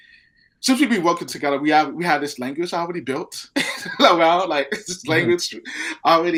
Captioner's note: laughing